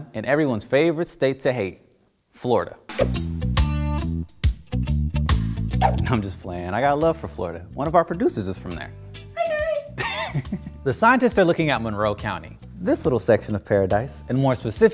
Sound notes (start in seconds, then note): 3.1 mellow music; 9.8 laughs